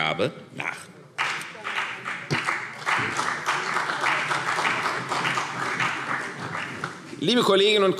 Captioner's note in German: Beifall CDU und BÜNDNIS 90/DIE GRÜNEN